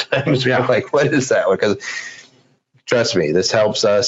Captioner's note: laughs